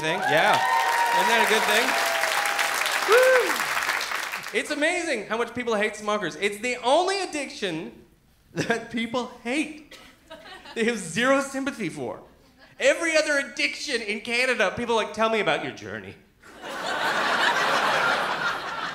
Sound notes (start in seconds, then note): 2.2 clapping and cheering